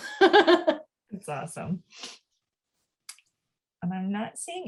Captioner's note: laughs